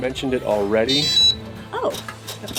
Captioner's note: lock beeps